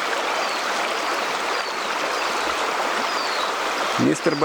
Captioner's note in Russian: шум реки